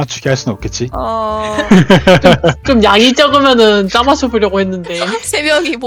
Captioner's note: laugh